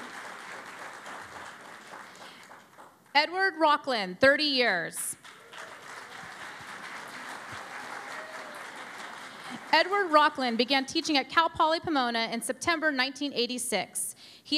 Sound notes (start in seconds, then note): 0.0 applause; 5.2 cheering and Applause